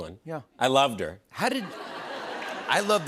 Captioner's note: laughter